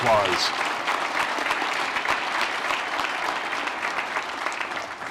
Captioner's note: applause